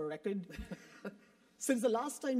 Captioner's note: laugh